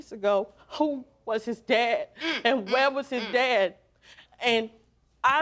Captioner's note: voice breaking